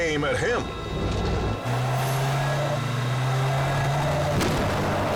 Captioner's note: vehicle revs